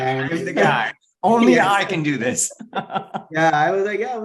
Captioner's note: laughs